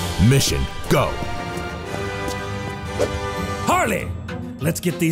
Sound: footsteps thudding

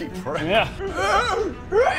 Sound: hrryyyk

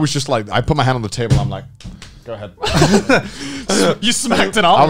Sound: laughing

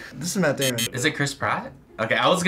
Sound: buzzer

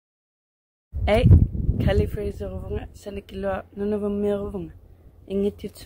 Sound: speaks in her language

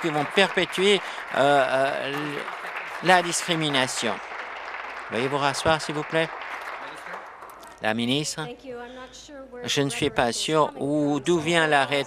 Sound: applause

